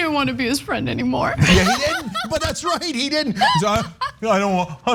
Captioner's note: laugh